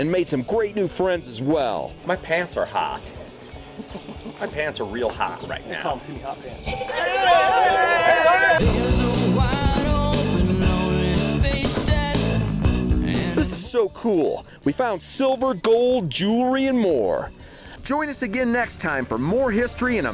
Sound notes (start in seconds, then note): 6.7 cheering